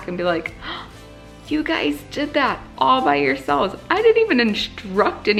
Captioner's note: gasps